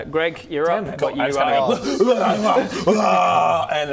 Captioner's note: hrghgwragahrghh; hyraaaaaaaaaaaagh